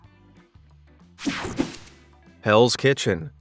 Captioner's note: whooshing sound